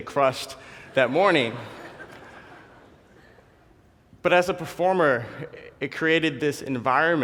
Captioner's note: laugh